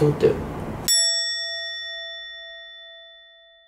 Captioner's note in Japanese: チーン